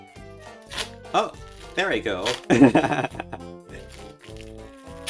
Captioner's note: plastic tape tearing; laughing